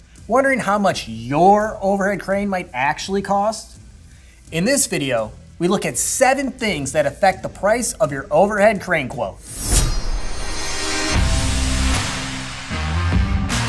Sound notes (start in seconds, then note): 9.4 swords slicing; 10.6 upbeat rock music